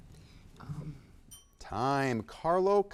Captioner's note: bell dings